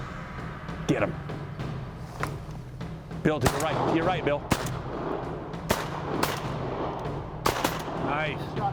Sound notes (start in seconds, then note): 3.4 gun shots